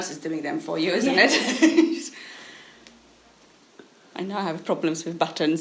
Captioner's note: laughing